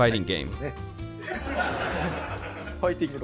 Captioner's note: laughter